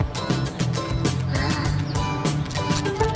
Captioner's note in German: Angestrengter Laut